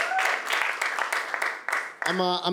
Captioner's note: applause